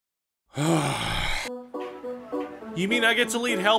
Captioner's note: a long, disappointed sigh